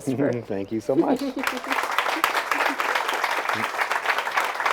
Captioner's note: audience applauds